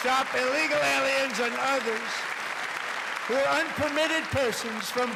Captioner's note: cheers and applause